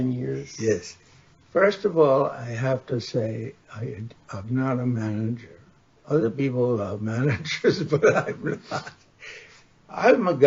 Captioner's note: laughs